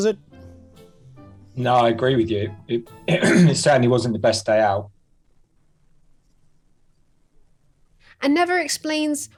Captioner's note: cough